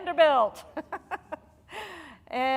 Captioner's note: laughing